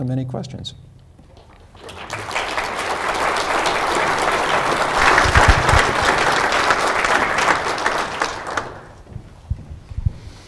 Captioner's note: applause